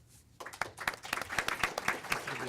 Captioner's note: audience Applause